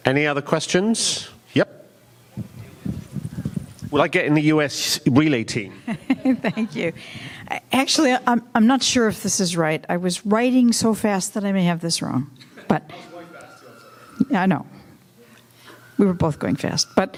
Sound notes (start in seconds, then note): 5.7 laughing